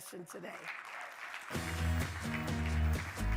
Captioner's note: audience applauding; upbeat music